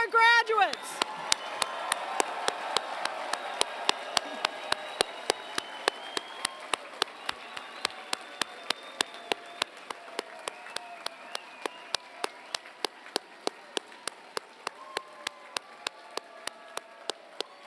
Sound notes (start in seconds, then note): 0.8 applause